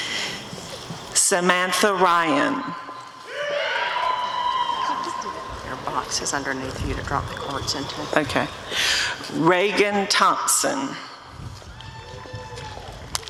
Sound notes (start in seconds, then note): 3.3 applause and cheering